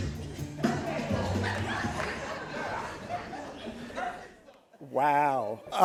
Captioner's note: all laughing